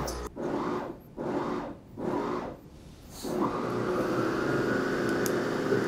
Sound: machine whirs and rumbles

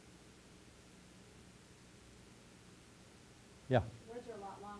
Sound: pause

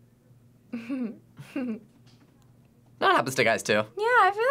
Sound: laughs

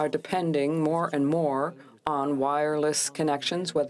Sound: speaking french

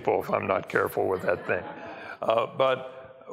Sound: laughter

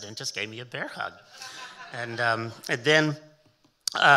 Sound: audience laughing

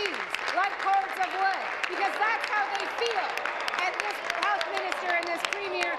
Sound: applause

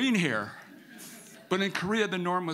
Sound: audience laughing

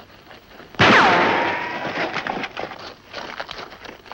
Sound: gun firing

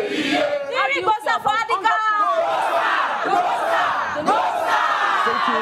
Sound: crowd chanting in foreign language

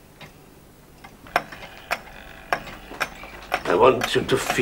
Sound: ticking and whirring

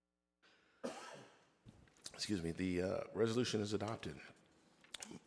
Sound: coughs

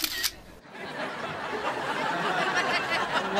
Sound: camera snapping; crowd laughing

